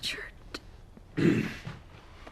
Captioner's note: clears throat